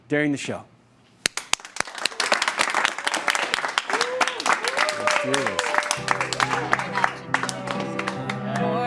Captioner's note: applause and cheering